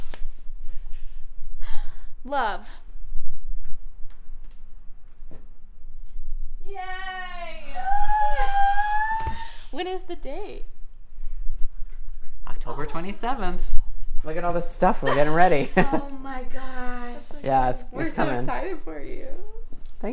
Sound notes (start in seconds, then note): 15.2 chuckles; 15.2 laughs